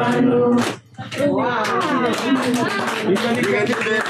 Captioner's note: applause